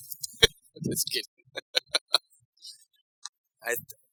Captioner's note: laughs